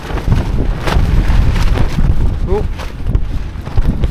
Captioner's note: strong gust of wind